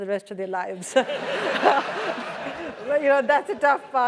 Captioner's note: laugh